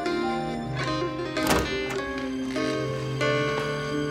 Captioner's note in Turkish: kapı açılır